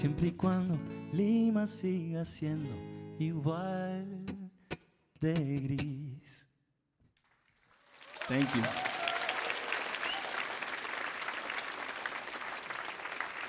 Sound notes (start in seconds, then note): 0.0 sings in Spanish; 9.0 audience applauds and cheers